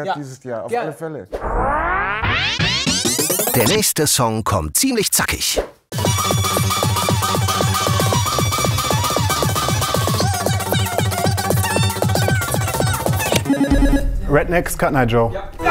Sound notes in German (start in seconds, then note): 1.4 Verzerrte Geräusche; 10.0 Beschleunigter Gesang